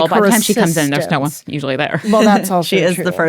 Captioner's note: laughs